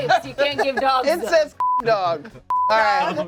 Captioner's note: beep